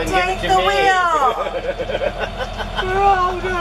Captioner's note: laughter